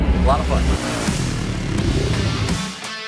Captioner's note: engine roaring; chuckles; rock music playing